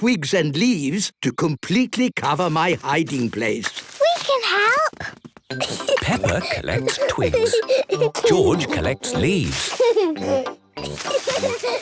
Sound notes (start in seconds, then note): 5.5 giggling; 8.9 laughing; 10.8 kids giggling